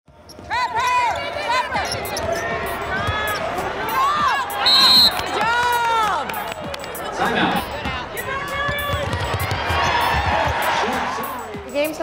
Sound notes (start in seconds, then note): 4.6 whistle